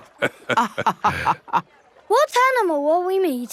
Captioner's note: both laughing